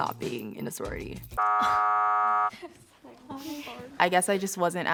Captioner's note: error buzzes